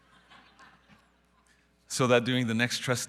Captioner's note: audience laughing